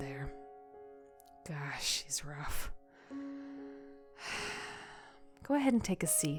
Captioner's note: sigh like a tired old soul